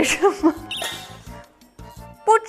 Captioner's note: cracking up again